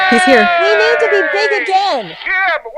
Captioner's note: everyone Cheers